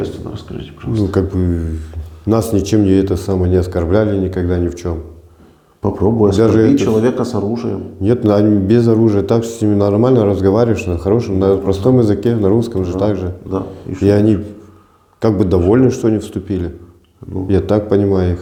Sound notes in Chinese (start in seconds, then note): 11.9 俄语